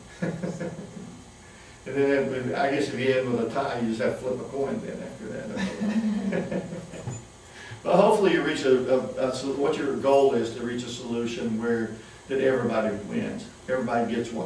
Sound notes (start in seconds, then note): 0.1 laughter; 5.5 laughter